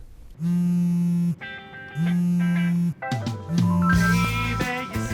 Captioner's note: cell phone rings